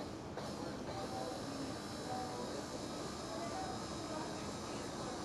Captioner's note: mixer buzzing